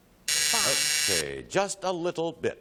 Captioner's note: buzz